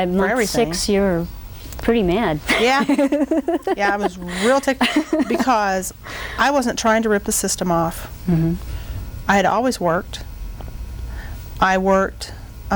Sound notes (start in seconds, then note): 2.5 laughing